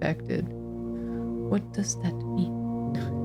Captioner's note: quietly